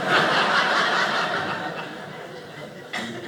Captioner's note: audience laughing